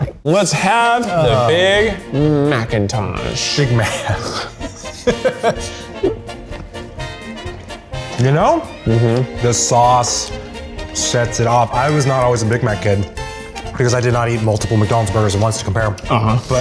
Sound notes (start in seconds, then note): 4.4 laugh; 4.8 bouncy music